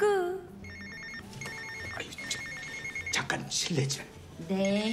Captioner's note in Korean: 휴대전화벨 소리